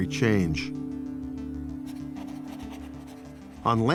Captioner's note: pen scratching